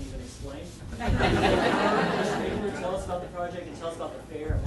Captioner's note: audience laughing